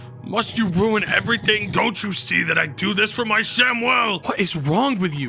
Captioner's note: none